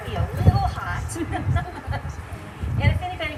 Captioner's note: laughter